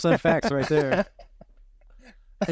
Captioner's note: laughing